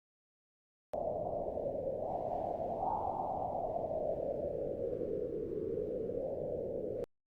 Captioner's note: wind blowing